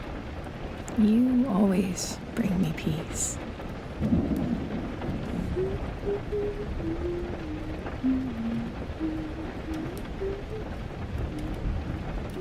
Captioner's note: she hums again, you're sure you know this song